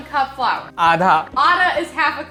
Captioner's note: speaking in Hindi